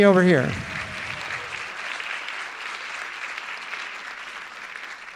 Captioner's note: audience applauding